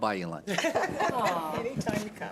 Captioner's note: chuckling